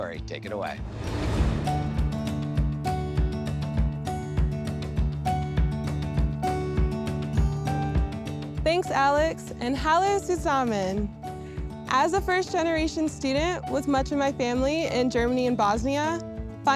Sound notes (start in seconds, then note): 1.4 light upbeat music; 9.9 speaking German